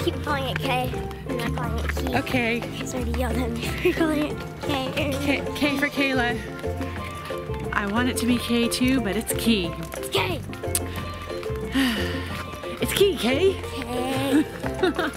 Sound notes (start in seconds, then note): 11.6 sighs; 13.6 laughs; 14.2 groaning